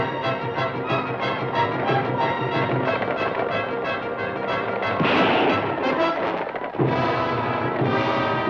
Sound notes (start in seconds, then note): 4.8 gun fires